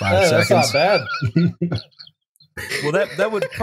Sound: laughter

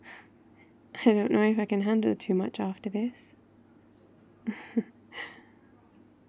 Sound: laughs

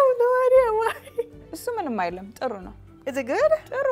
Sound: speaking Amharic

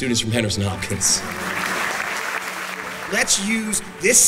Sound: clapping

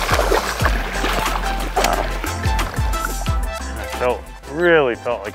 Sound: water splashing

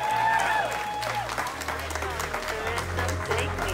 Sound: applause

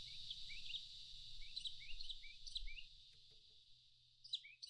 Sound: birds chirping

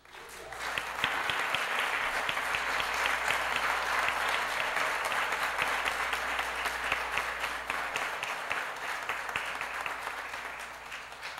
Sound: applause

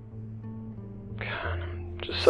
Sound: sighs

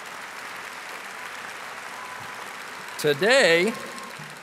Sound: audience applauding and cheering

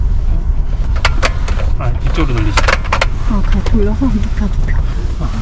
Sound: zzz

